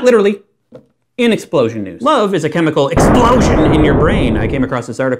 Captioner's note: explosion